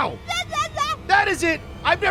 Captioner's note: makes baby noises